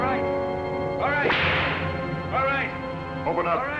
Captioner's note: whip cracks